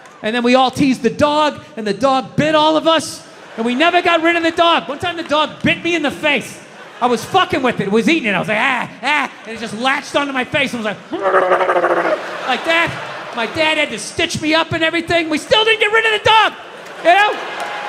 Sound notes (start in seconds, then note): 11.0 audience laughs; 11.1 growls